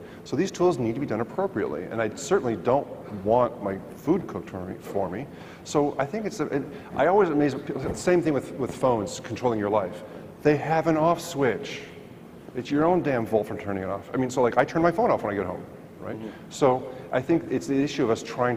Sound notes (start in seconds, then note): none